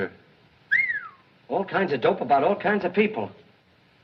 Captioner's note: whistles